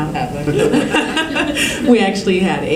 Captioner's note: laughter